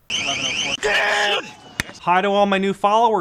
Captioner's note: sirens wailing; man shouting